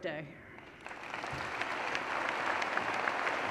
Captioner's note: applause